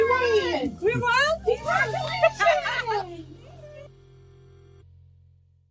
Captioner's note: laughs